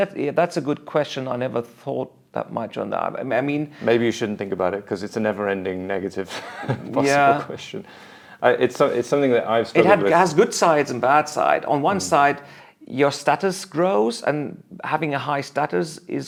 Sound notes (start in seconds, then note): 6.3 laughs